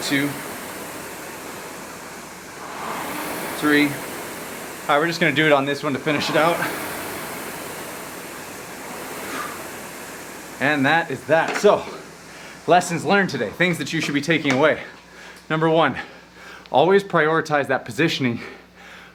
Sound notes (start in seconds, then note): 2.8 rowing machine whirring; 6.8 rowing machine whirring